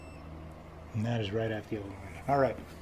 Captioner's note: beeping stops